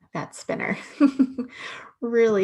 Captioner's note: laughs